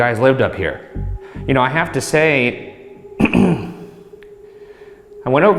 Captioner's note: clearing throat